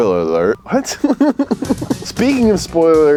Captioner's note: chuckles